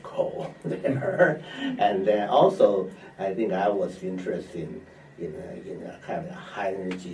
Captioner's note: laughs